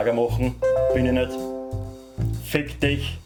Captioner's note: Windows security warning chime